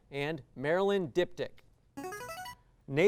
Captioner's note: signaling device tone